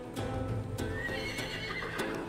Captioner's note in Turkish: At kişneme sesi